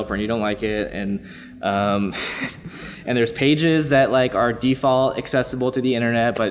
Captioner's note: laughs